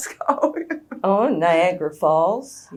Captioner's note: laughs